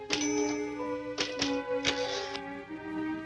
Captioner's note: keys clacking; bell rings